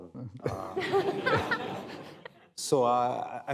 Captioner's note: laughter